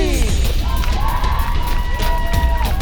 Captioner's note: cheering